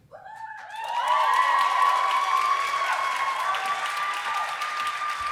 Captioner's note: applause